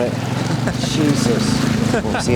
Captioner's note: laughing